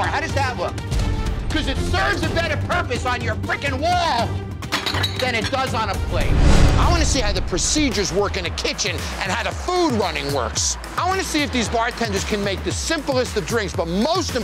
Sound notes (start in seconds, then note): 4.8 plate clattering